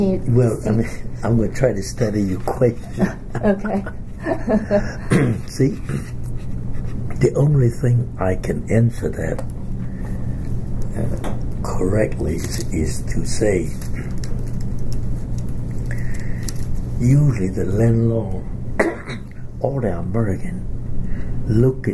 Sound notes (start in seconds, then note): 2.8 laughs; 5.0 clears throat; 18.7 coughs